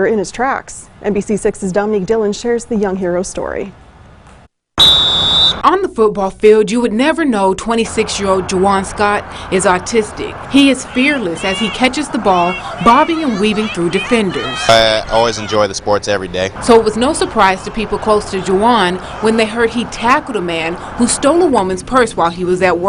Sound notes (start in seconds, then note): 4.8 whistle Blows